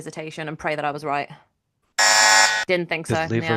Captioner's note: buzzer